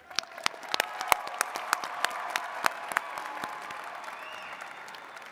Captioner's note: attendees cheering and clapping